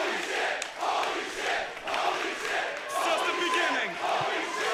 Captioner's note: crowd cheering